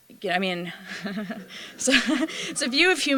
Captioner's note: laughter